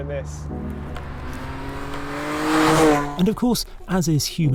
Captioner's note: engine roaring; cheerful music